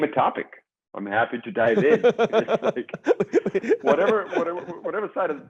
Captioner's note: chuckles